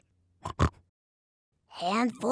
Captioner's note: snorts